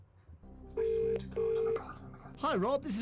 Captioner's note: whispering